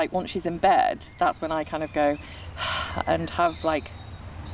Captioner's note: puffs